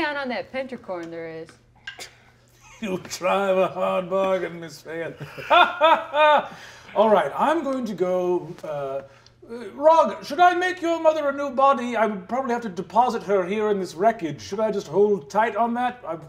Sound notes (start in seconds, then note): 4.9 laughing